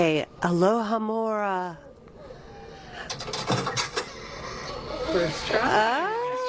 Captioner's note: unlocking sound as trunk opens